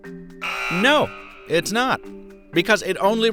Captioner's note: buzzer buzzing